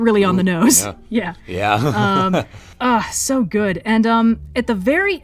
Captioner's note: laughs